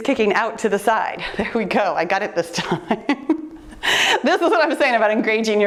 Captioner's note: laughs